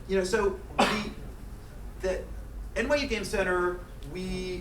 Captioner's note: coughing